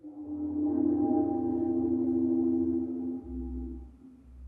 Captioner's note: air gentle howling